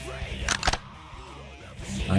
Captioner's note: ka-click